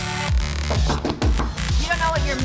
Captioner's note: knocking